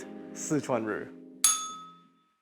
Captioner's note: bell rings